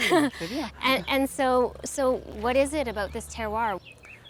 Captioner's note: laughing